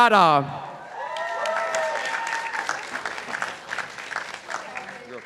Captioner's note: participants applauding